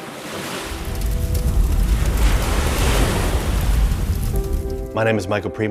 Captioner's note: waves crashing, fire crackling, and wind blowing